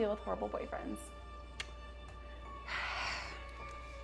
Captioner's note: kiss smacks hand; gentle suspenseful music